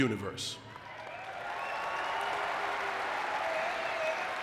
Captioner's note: audience clapping